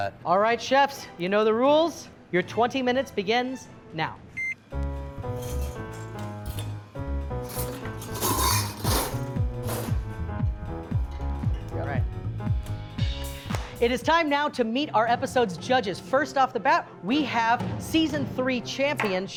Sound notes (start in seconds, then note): 4.7 jazzy music; 7.4 pans rattling